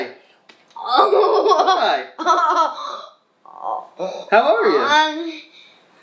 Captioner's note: laughing